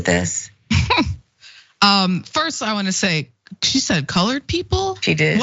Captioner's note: laugh